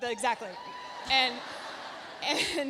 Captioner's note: audience cheering; audience laughs